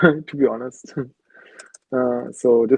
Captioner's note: chuckling